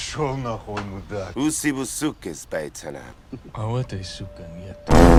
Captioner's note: Russian